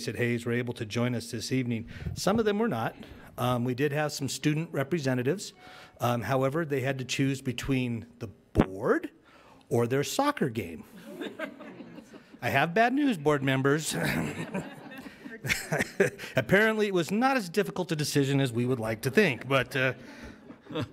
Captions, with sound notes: at Hayes were able to join us this evening. Some of them were not. We did have some student representatives, however they had to choose between the board or their soccer game. I have bad news, board members. (laughs) Apparently it was not as difficult a decision as we would like to think,